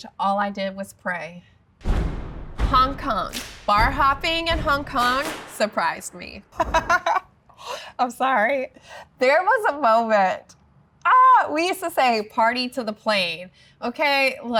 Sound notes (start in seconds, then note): 1.8 brooding music; 6.5 laughing